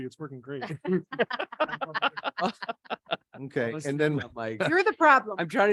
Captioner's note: people laughing